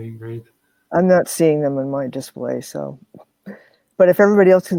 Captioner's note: laughs